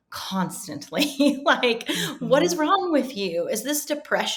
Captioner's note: chuckling